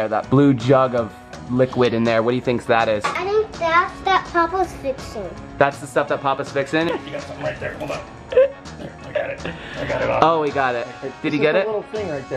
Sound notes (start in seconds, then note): 8.8 laughter